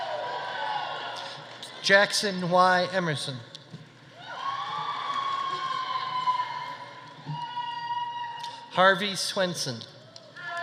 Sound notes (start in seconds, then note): 4.2 audience cheering